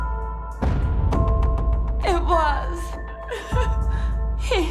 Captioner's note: crying